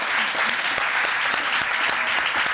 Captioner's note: applause